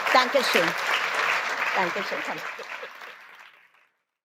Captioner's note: applause